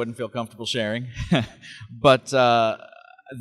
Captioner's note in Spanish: Risas